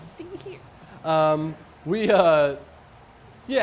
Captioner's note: laughs